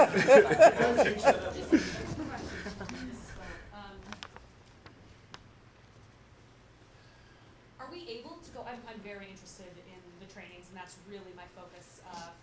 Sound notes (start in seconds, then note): 0.0 laughter